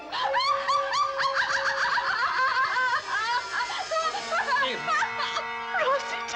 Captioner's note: Evelyn laughs hysterically